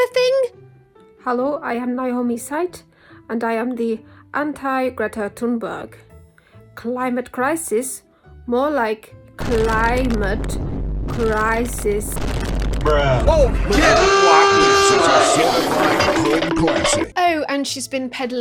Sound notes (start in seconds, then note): 9.4 boom; 13.6 siren